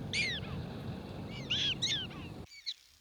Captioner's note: chirping